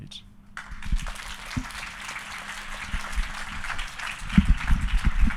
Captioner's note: audience applauding